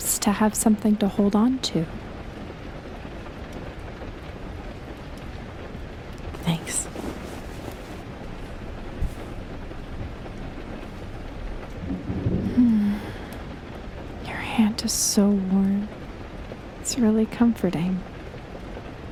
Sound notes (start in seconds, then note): 12.2 A gentle rustling sound as she takes your hand; 15.0 sighs